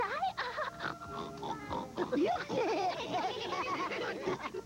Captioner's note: smurfs laughing